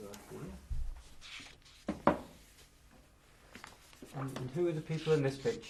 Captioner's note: pauses for 3 seconds